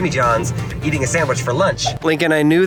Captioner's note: whooshing